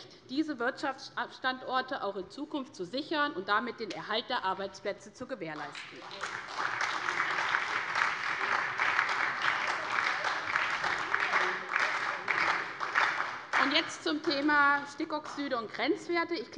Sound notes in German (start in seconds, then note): 5.6 Beifall bei der SPD